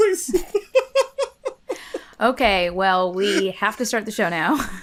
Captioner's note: laughter